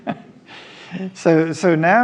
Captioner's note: laughs